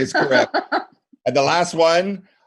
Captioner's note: laughing